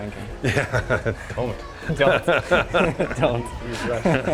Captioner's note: laughs